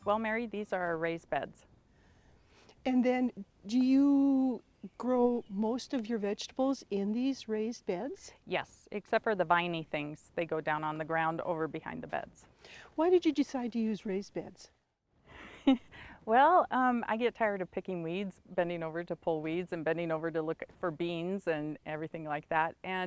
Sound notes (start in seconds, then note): 15.4 chuckles